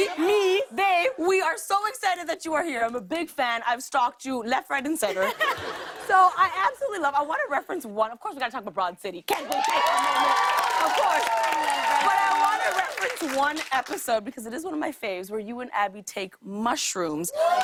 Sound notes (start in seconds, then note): 5.0 laughter; 9.3 cheers and applause; 17.3 cheers and applause